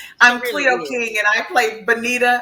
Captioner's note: laughs